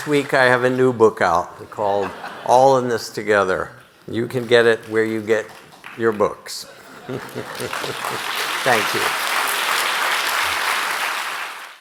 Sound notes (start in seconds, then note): 6.7 audience laughing; 9.7 audience clapping